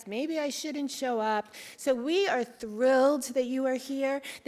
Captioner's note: none